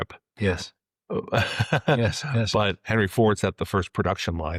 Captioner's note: laughs